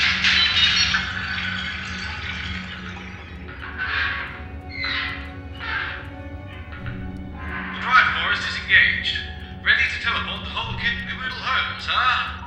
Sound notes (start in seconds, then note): 4.5 metal creaking